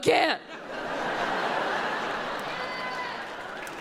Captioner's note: audience laughs